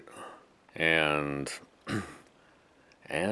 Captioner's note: clears throat